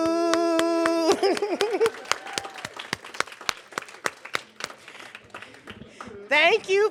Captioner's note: cheers; applause